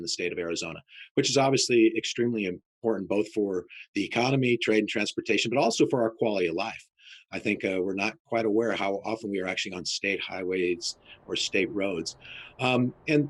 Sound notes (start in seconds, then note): none